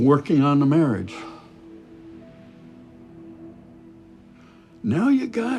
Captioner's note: dramatic music continues; Chuck sighs